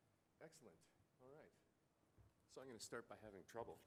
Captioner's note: voiceover